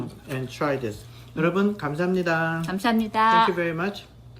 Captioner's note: speaking Korean